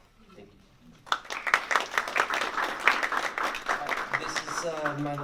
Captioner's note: applause